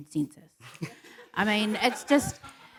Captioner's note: laughter